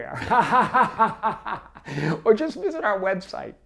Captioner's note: laughs